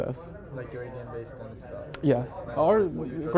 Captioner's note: faintly speaking